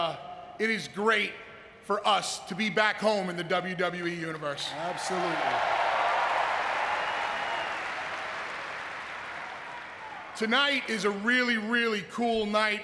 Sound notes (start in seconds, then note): 4.6 audience cheering